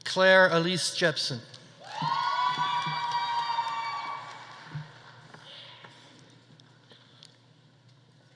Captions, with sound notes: Claire Alise Jepsen. (audience applauding) (audience cheering)